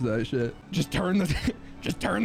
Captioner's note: laughing